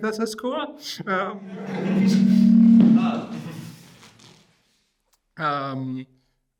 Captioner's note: audience laughing